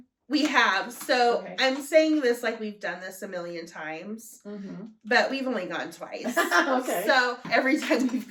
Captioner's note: laughter